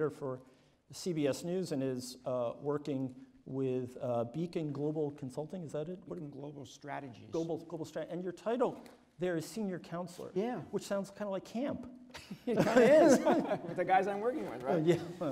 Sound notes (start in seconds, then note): 12.1 laughter; 12.2 laughs